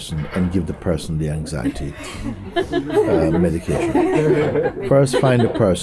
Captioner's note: laughter